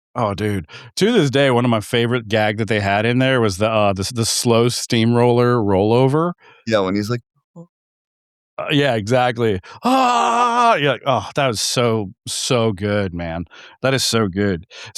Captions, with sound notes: Oh dude, to this day, one of my favorite gags that they had in there was the slow steamroller rollover. Yeah, when he's like. Yeah, exactly. (screams) You're like, "Oh, that was so, so good, man. That is so good."